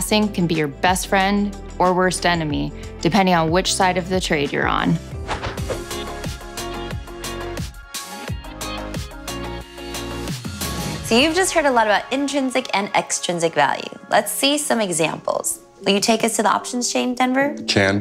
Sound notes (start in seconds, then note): 5.2 air whooshing; 6.3 relaxed music